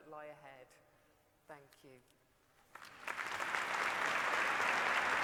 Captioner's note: applause